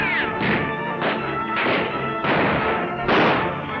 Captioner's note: guns firing